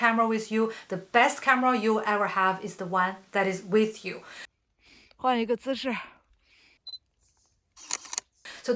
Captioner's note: speaking Chinese